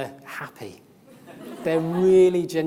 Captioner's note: audience laughs